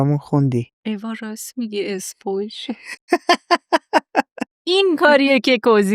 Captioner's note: laughs